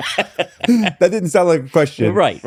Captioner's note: laughing